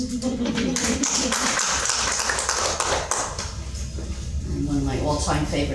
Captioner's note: laughing; audience clapping